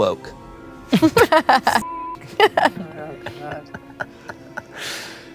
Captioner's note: everyone laughs; beep